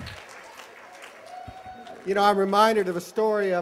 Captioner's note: applause